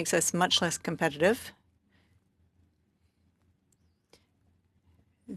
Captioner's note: speaking French